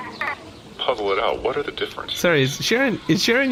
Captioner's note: laughing